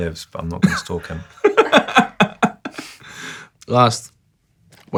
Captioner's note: laughs